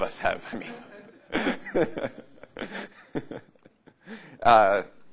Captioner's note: laughter